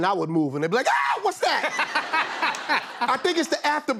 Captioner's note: laughter